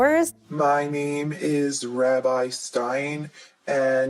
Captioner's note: in deep voice